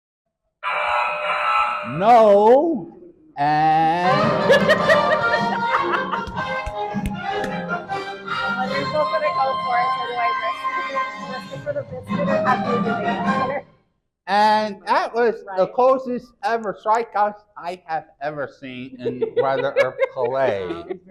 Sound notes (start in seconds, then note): 1.8 error sound effect; 3.4 triumphant music; 4.4 laughs and claps; 8.8 faintly speaking; 18.6 chuckles